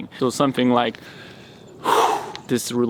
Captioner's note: man 1 Exhales